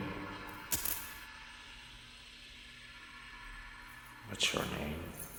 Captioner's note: lights buzzing